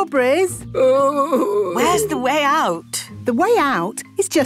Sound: groaning

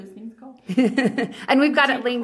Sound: laughs

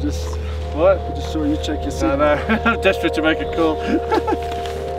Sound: laughing

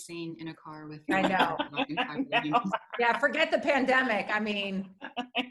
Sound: laughter

